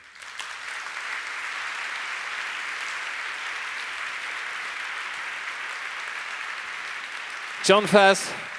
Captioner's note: applause